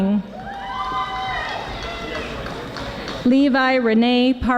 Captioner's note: audience applauding